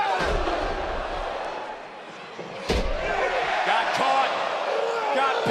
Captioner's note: crowd cheering